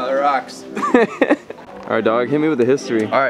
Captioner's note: both laughing